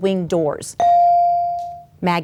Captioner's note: bell dings